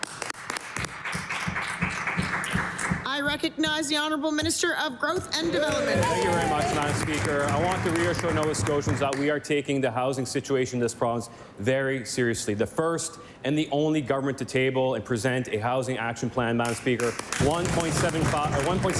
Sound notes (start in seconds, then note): 5.6 applause